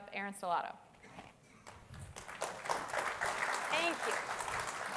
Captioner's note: applause